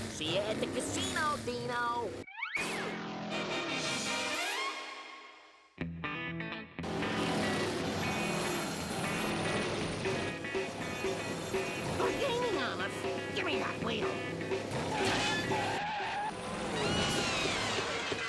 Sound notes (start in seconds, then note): 14.0 tires screeching